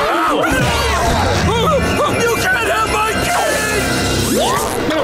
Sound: screaming

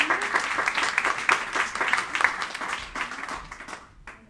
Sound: applauding

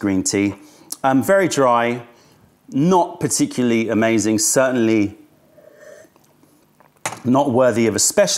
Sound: sips tea

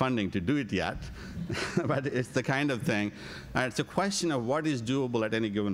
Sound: laughs

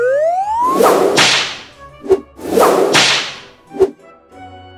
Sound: whip cracking

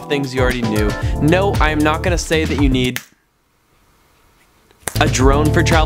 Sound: snaps fingers

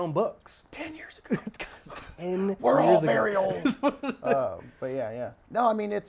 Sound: whispers

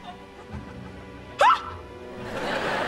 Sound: screaming

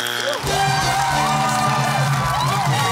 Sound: cheering and applause

